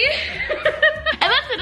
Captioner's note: laughing